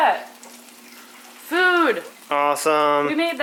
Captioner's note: sizzling noises